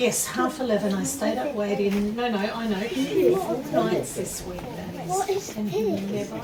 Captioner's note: voice fades to distance